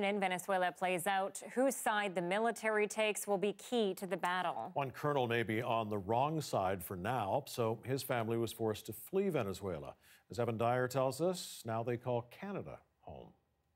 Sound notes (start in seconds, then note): none